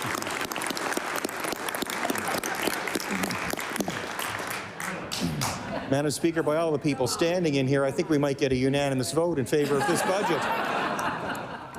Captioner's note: cheering/applause; applause